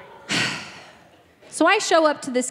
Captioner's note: sighing